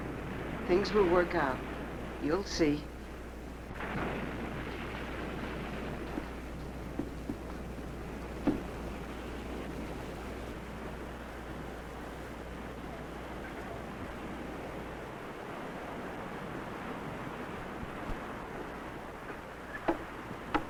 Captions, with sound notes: Things will work out, you'll see. (waves crashing)